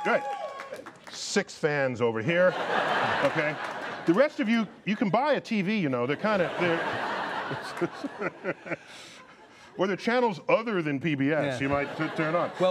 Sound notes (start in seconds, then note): 0.0 cheers; 3.2 laughter